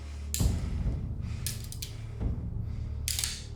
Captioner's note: gun clicking